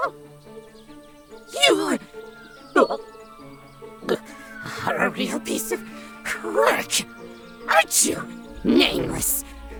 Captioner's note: screaming; retching